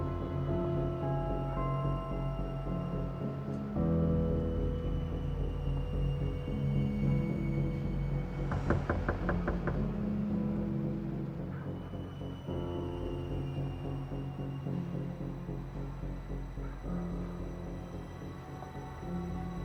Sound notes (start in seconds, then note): 8.4 door knocking; 12.0 foreboding music